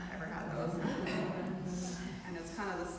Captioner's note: trainees laughing